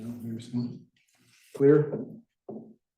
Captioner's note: speaker talking gently